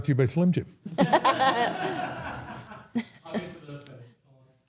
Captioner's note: everyone laughs